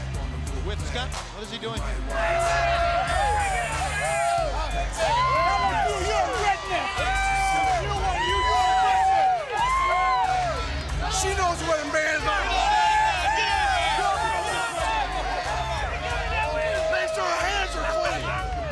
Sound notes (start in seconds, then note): 3.5 crowd cheering; 6.7 crowd chatter; 13.5 crowd cheering